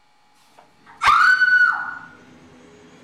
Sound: Victoria screams

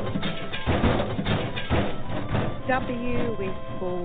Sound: bangs and crashes

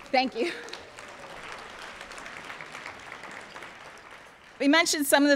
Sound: applause

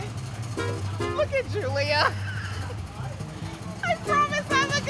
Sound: laughs

